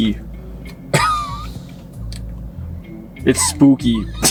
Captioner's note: laughing; laughing